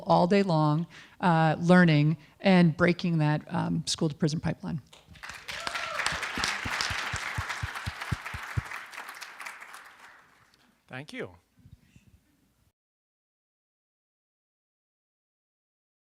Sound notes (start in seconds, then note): 7.7 applause